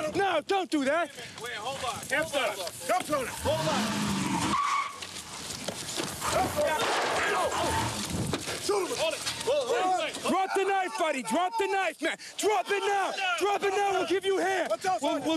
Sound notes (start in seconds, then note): 5.5 brakes squealing